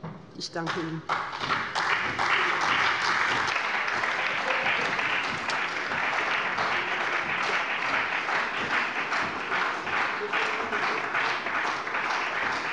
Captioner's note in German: Beifall bei dem BÜNDNIS 90/DIE GRÜNEN und der CDU